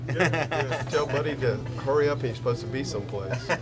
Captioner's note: laugh